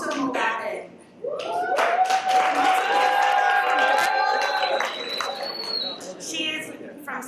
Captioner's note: cheers and Applause